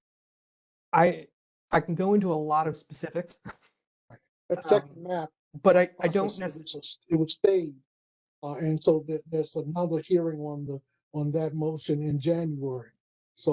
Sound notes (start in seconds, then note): 6.0 laugh